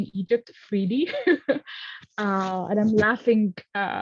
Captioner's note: laughs